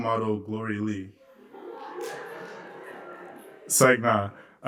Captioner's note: laughter